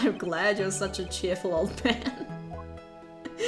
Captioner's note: laughs